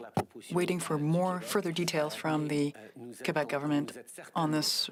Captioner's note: speaking French